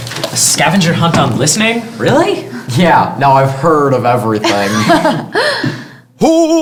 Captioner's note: laughter